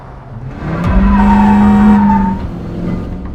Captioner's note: dramatic music playing; horn; wheels squeaking